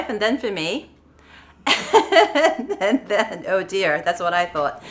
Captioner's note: laughs